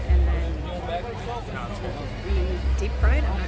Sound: background chatter

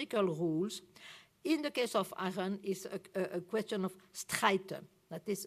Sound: non-english

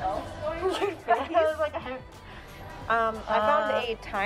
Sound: laugh

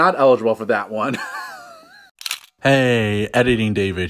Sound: laugh then camera click

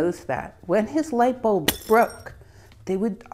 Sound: glass shuttering

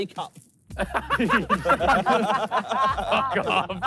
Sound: all laughing

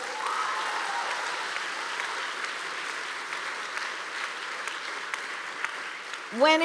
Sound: applause

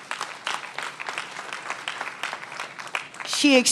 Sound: applause

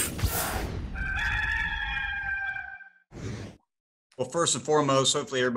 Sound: logo whooshes; gamecock crows

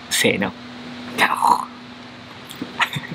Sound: lion roar in Japanese

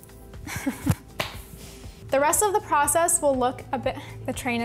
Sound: chuckling

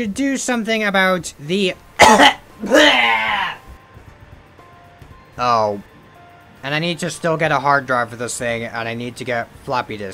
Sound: cough

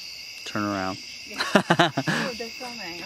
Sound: laughs

